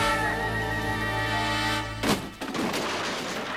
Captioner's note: crash